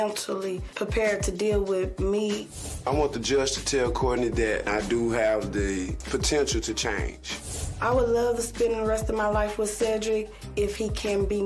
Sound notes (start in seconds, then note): none